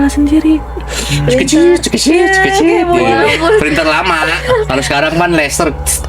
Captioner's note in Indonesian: tertawa